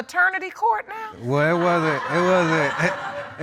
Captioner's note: laughs